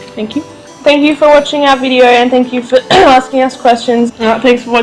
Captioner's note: clears throat